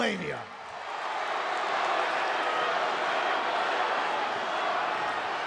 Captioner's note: crowd murmuring